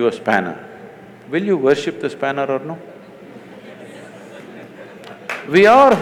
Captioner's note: laughter/Applause